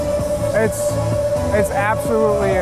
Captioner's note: none